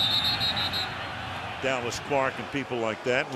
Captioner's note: whistle blows